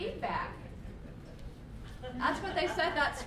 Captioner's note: laughter